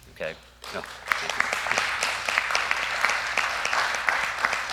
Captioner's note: applause